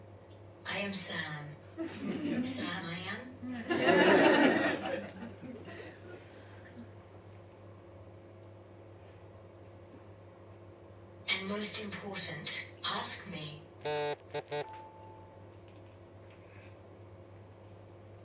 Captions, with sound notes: I am Sam. Sam I am. (Audience laughs) And most important - ask me. (Phone buzzes and chimes)